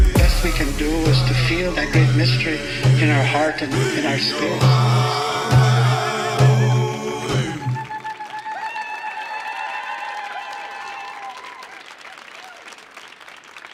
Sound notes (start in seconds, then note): 5.0 group singing in Native language; 8.1 audience cheers and applauds